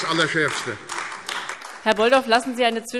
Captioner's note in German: Beifall AfD